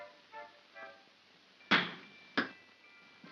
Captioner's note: soft whimsical music; bang & pop